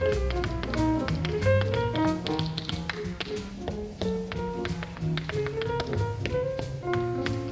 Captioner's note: shoes tapping; upbeat jazz music